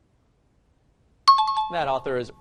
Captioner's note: time chime